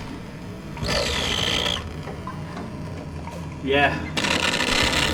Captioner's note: machine crackling continues